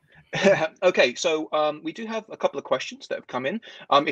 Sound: laughs

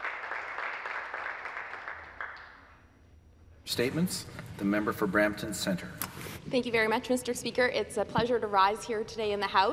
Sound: some applause

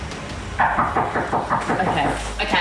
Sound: fervent knocking on door

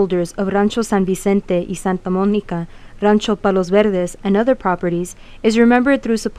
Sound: speaking in foreign language

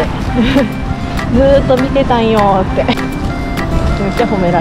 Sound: laughs

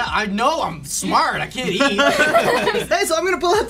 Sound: laughs

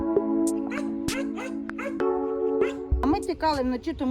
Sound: dog barking

